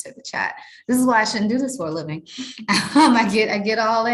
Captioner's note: chuckles